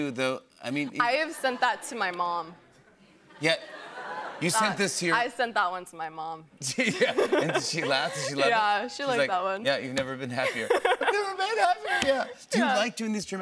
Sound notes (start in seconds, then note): 6.8 laughter